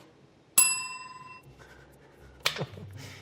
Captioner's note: bell ringing